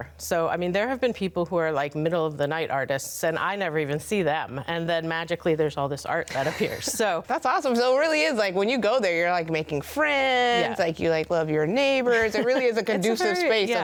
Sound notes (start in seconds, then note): 6.3 laughs; 12.0 laughs